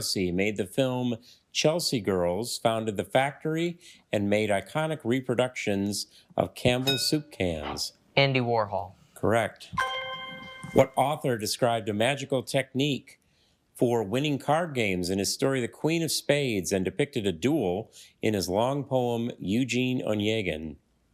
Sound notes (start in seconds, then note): 6.8 bell dings; 9.7 triumphant chime